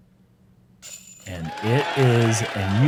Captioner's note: applause